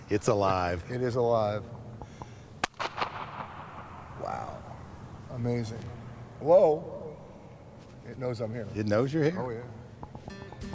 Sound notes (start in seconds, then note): 2.6 claps hands; 2.7 echos